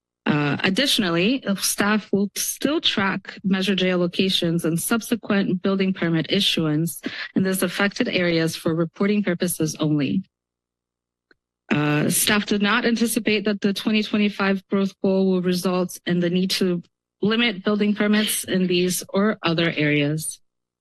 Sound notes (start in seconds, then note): 0.0 pause; 11.7 pause; 20.5 pause